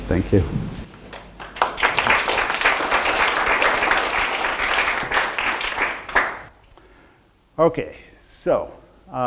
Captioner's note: audience applause